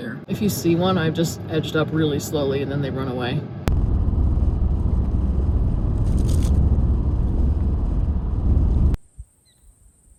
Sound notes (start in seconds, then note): 4.0 car driving